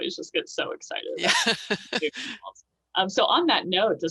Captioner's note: laughter